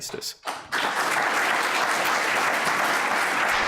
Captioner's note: applause